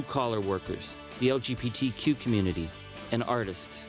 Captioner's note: none